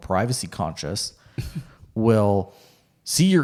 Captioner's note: chuckles